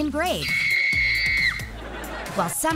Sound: screaming

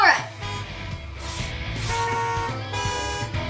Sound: cars honking

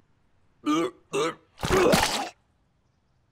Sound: coughing

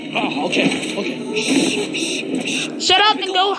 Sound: shushing

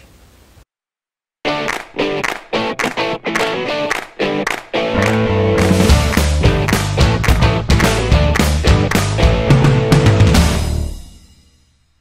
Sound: claps

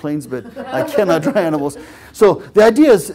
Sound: laugh

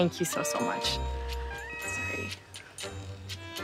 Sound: Lauren's phone rings

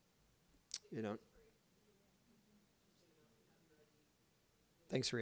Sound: speaks faintly

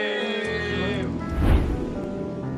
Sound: whoosh

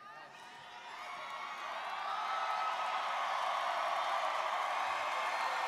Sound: students cheering and applauding

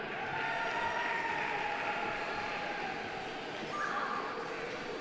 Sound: audience applauding

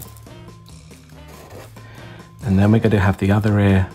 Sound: pen scratching

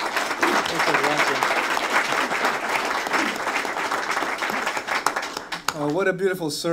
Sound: applause

